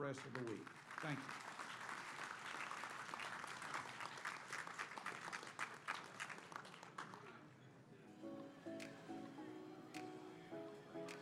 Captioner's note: applause